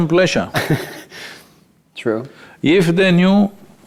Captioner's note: laughs